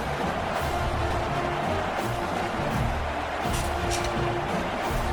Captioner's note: crowd Noises